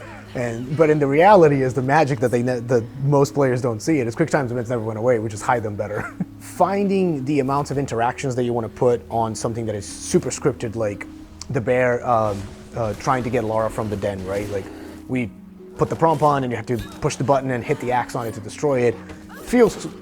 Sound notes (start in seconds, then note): 5.9 laughing